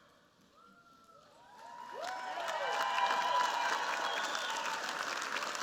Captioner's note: cheers, applause